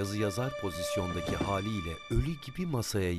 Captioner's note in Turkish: Düşme sesi